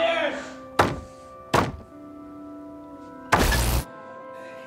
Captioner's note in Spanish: Golpes